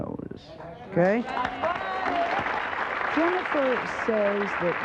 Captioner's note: audience applauds